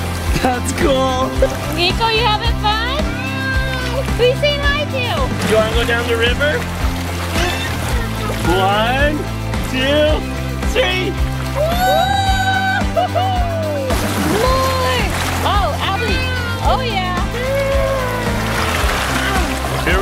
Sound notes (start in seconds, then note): 11.5 exclaim